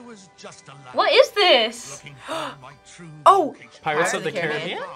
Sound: gasps

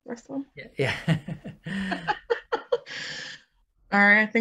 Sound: laughing

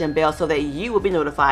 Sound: bell dings

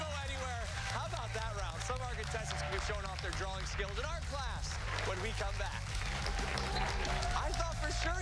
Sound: bell rings; cheers and applause

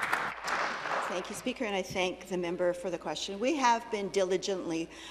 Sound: applause

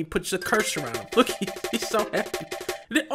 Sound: laughing

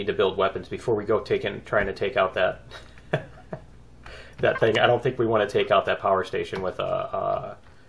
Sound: laughs

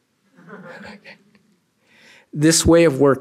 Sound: laughter

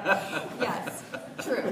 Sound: laughter

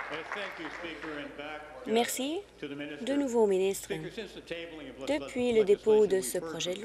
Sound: applause

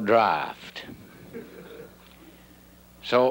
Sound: audience laughing

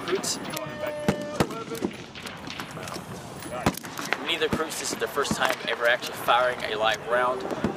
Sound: horn blaring

